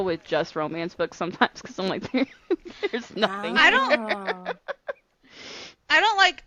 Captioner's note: laughter